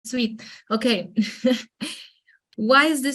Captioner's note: chuckles